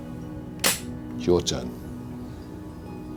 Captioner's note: gun clicks